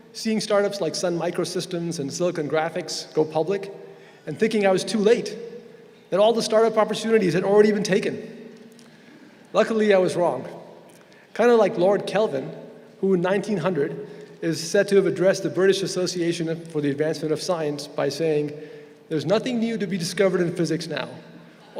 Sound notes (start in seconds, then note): none